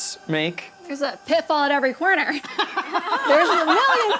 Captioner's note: laughs